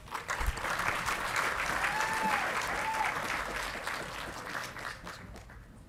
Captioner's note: audience clapping and cheering